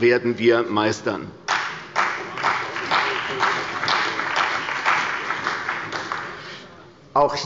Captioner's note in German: Beifall bei der CDU und dem BÜNDNIS 90/DIE GRÜNEN